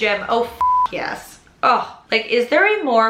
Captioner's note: beep